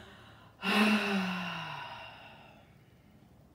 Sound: exhales

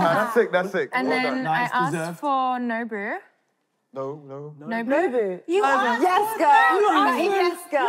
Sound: none

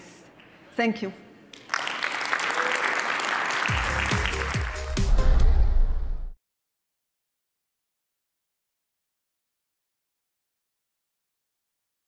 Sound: applause

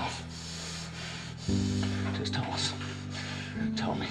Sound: breathing deeply

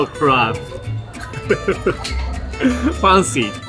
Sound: chuckles

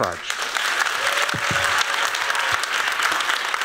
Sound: applauding

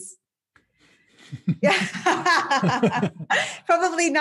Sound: both laughing

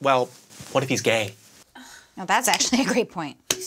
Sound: blonde Woman scoffs

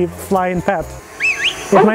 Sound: whistling

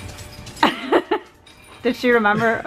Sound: laughs

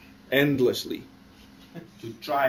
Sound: laughter

